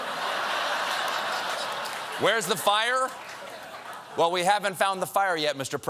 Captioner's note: laughter